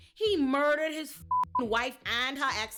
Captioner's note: beep